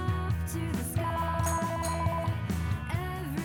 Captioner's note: phone ringing